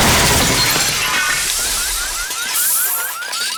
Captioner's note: car alarm blaring